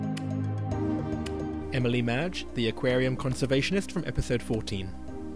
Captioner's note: voiceover